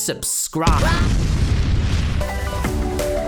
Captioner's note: explosion